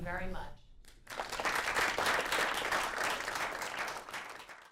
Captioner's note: applause